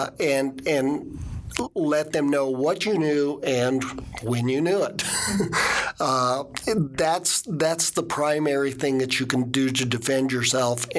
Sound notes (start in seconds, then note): 5.5 laughing